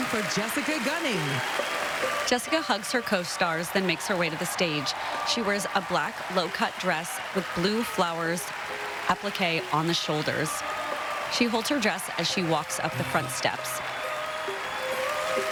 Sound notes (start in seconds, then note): 3.6 applause; 14.8 applause